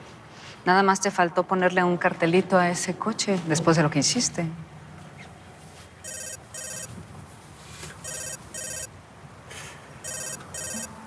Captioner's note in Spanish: Suena un celular